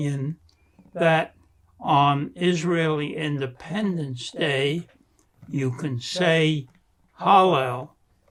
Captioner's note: non-english